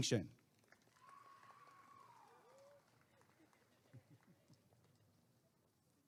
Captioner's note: applause and cheering